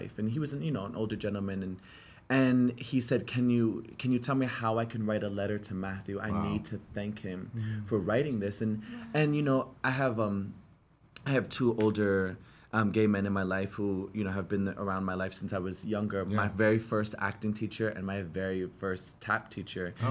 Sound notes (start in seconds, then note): none